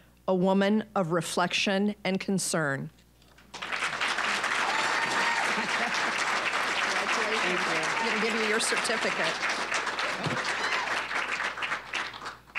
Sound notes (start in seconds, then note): 3.8 applause, cheering; 5.0 both women laughing; 10.2 applause